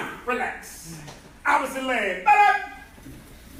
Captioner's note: enthusiastic shouting